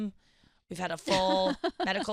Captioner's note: laughing